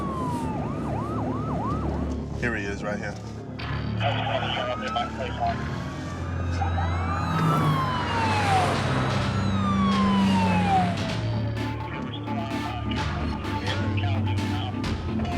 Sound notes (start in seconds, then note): 0.0 siren wailing; 4.1 sirens wailing